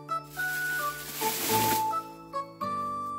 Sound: pulling out sound

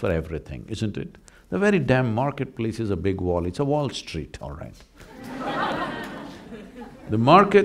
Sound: laughter

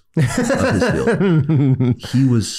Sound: laughs

